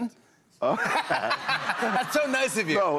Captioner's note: laughter